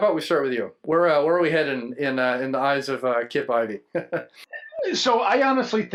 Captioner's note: laughs